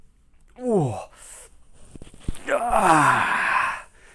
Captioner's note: moans